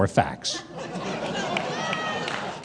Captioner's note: audience laughing